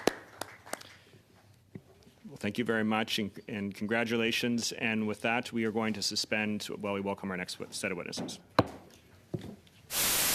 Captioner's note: applause